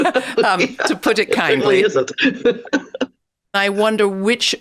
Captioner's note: both laughs; laughs